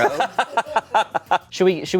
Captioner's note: laughs